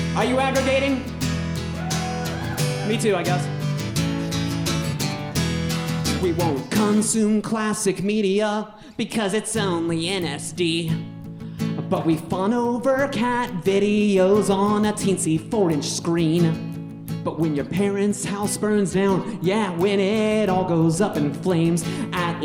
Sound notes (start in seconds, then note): 1.7 audience cheering